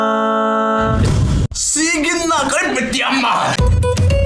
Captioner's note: in Hokkien